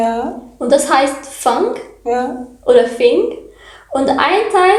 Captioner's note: wind